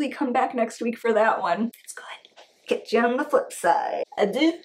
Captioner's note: whispers: It's good